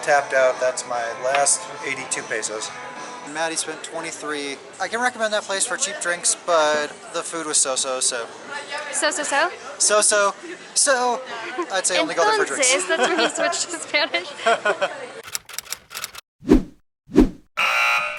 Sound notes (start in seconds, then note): 12.6 laughter